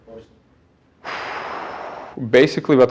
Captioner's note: immitating a whale